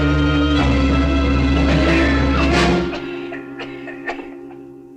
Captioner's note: Harry coughing